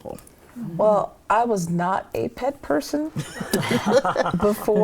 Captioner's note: all chuckling